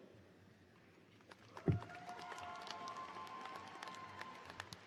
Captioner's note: applause